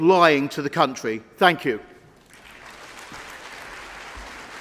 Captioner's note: applause